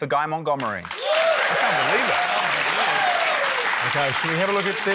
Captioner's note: cheering, applause